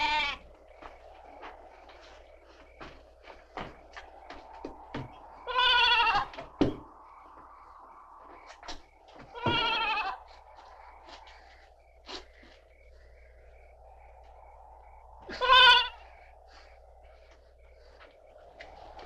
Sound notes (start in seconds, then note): 0.0 goat bleating; 7.5 insects chirping; 12.5 wind whooshing; 15.3 goat bleating